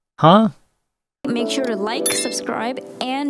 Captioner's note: bell sound